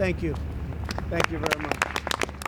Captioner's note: applause